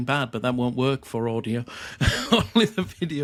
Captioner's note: chuckles